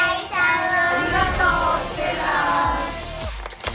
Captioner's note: foreign